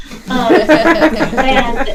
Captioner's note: laughing